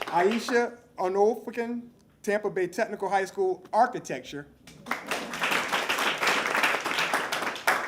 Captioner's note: applause